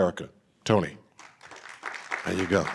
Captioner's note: audience applauding